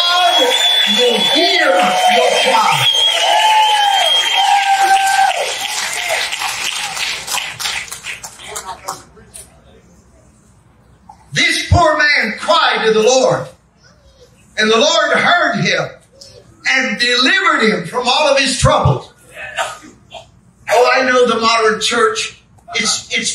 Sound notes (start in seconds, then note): 18.9 congregation amens